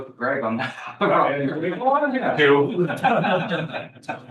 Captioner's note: laughs